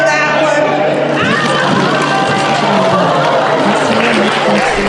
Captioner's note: audience applauses